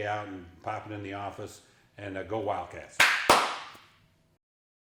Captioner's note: clap, clap